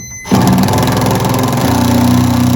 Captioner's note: machine whirring